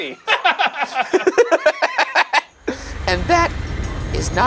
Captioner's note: laughing